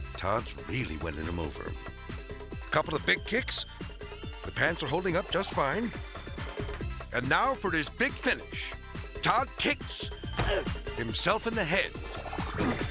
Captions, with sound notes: Todd's really winning 'em over. Couple of big kicks. The pants are holding up just fine. And now for his big finish, Todd kicks (leg thudding) himself in the head.